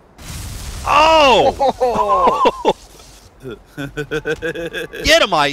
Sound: laughter

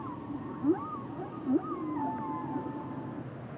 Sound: whale song

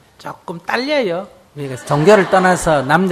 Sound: audience Laughter

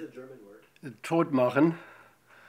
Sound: voiceover; speaks in German

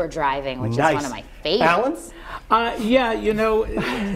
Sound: laughter

